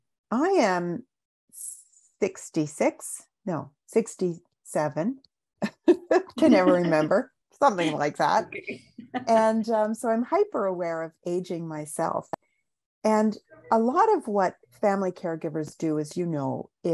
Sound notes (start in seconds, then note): 5.7 laughs